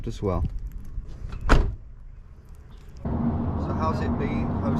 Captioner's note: door thuds